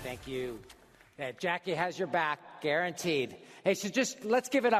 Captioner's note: applause